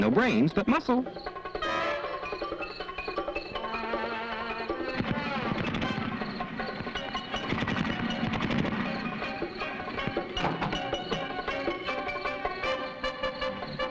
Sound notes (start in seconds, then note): 5.6 car engine rumbling